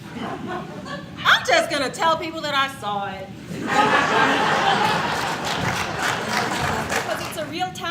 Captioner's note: audience laughs and applauds